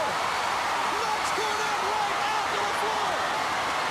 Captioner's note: crowd cheering